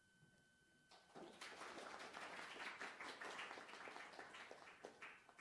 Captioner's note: students applauding